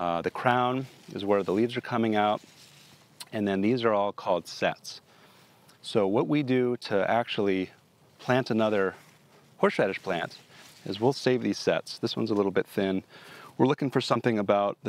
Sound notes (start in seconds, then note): none